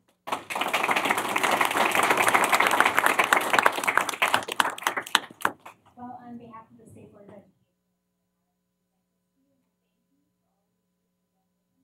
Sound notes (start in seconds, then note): 2.9 applause